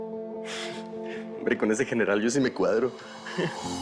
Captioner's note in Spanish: Risas